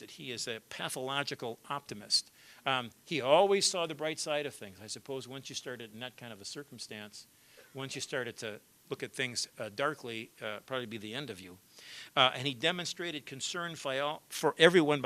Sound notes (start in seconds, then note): none